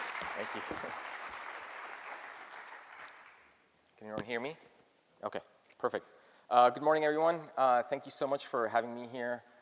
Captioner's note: applause